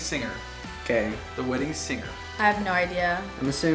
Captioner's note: male Voice